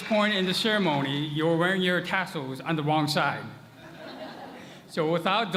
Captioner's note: laughter